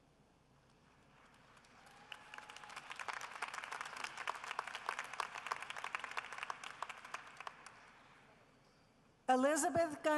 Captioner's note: applause